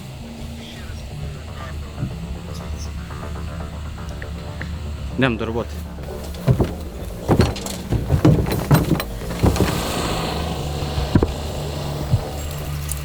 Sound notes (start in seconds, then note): 3.3 tense music; 6.1 metallic clatter